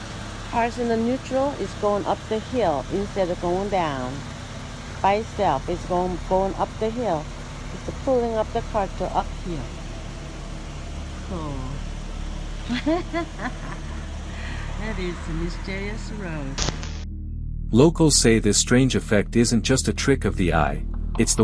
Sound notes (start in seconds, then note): 12.6 laughs in confusion